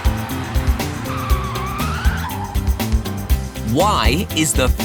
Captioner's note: screeching